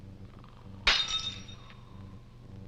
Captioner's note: breaking Glass